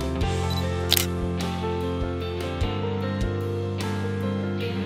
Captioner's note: shutter clicks